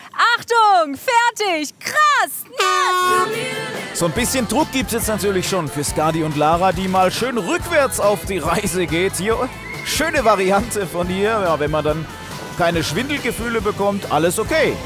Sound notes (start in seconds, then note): 3.6 Heitere Popmusik; 9.6 Pfiff